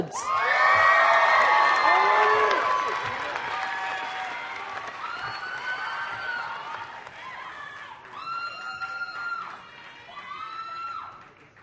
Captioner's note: applause